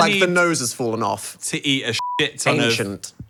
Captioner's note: beep